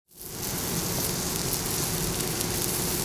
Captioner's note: sizzling